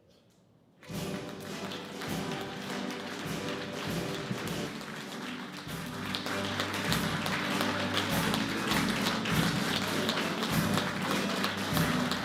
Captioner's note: applause